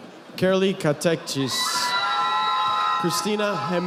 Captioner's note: audience applauding